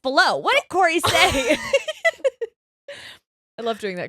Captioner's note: laughing